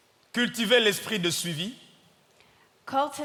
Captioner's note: audience member speaking in French; speaking in French